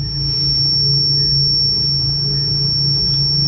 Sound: beeping

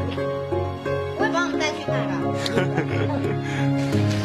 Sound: volunteer laughs

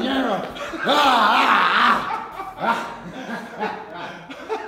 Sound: laugh

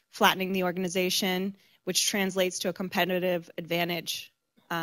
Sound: none

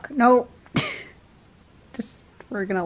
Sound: laughs

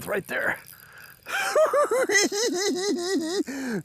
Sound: giggling

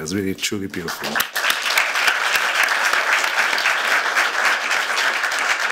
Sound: applause

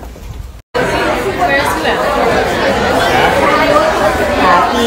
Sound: restaurant chattering

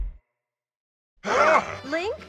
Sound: exclaims in shock

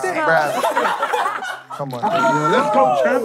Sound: laughing

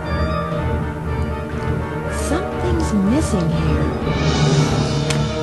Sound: water drips; buttons pushed

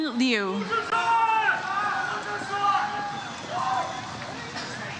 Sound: audience cheers

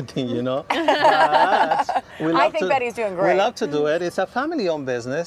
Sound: laughter

